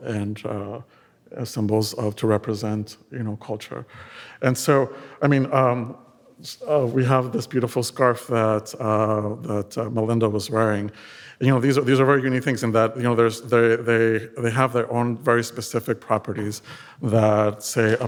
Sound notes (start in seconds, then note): none